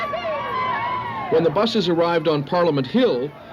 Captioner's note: crowd cheering